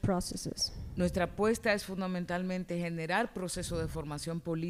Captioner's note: speaking spanish